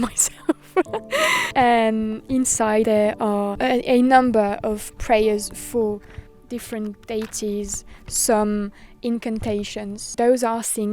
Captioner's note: laughs